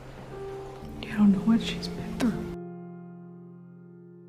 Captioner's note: whispering